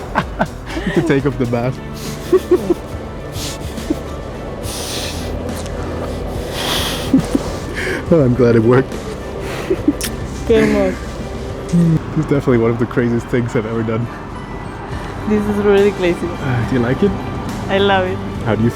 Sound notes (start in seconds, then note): 0.3 laughs; 3.7 heavy breathing; 3.7 kissing sounds; 10.7 speaks in Spanish